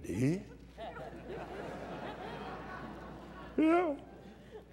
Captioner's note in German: lacht